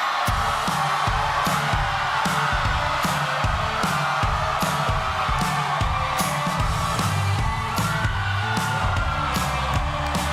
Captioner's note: cheers and applause